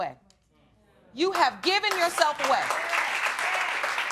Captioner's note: audience clapping